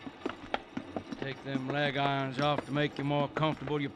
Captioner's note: none